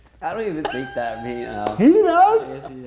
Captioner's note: laughing